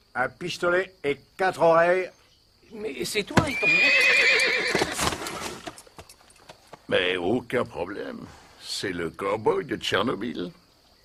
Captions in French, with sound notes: un pistolet et quatre oreilles ? -C'est vous... [Coup, hennissement] -Mais aucun problème. C'est le cow-boy de Tchernobyl.